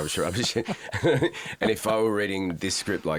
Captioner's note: both laugh